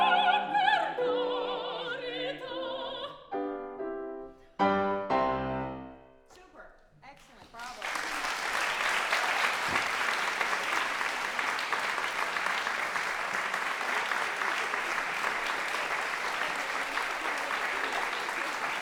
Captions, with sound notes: - Super, excellent, bravo. (audience applauding)